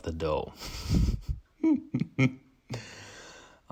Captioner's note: laughs